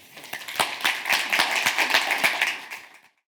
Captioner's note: audience claps